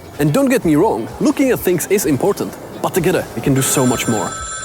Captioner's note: phone ringing